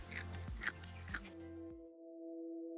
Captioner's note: crunch